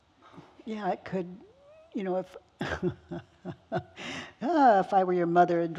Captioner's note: chuckling